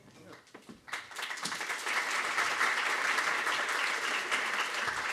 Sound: applause

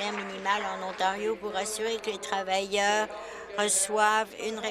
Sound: applause

